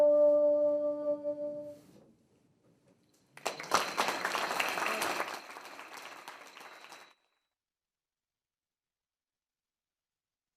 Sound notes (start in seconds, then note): 3.3 trustees applaud